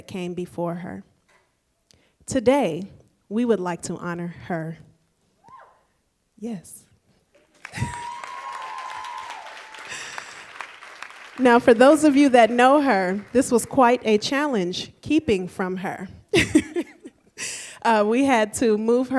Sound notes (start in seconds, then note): 7.3 applause; 17.2 laughs